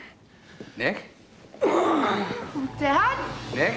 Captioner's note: groans